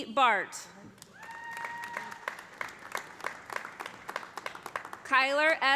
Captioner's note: audience applauding; audience cheering